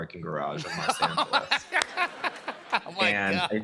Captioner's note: laughter